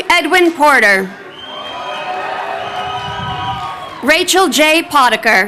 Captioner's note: crowd cheering